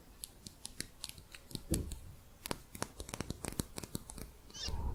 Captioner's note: quick tapping